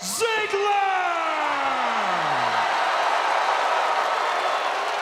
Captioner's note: audience cheering